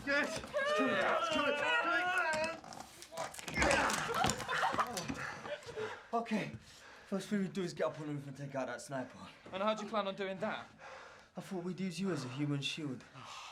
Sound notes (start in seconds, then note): 3.4 laughing and cheering